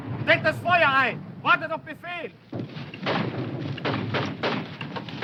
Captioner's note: speaking foreign language